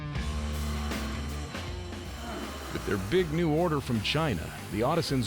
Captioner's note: cutter spinning